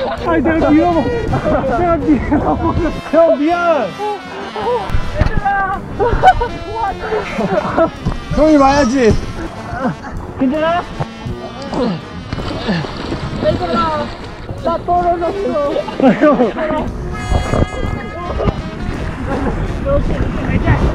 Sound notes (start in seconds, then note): 9.3 dog paddling over